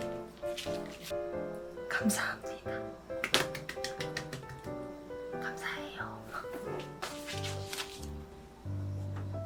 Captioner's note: whispering